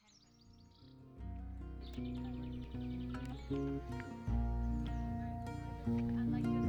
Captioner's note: birds chirping